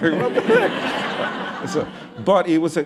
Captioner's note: laughter